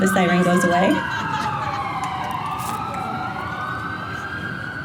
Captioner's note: wailing siren